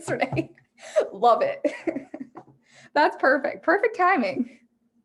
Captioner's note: laughing